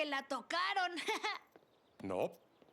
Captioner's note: nervous laugh